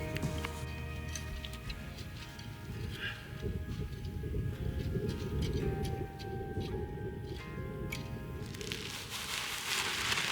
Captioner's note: snow crunching